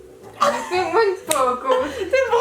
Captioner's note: laughs